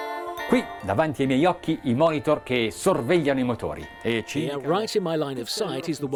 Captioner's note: speaking in foreign language